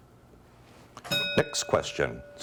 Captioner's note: bell ringing